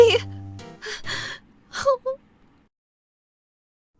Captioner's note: sob